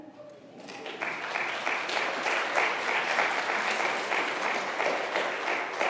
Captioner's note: congregation applauding